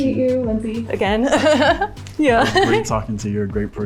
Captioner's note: laughs